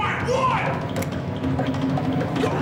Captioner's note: click